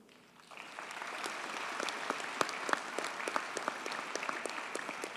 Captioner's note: audience cheers and applauds